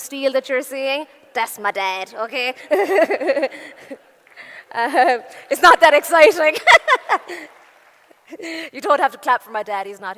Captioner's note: laughing